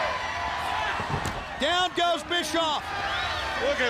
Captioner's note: crowd cheering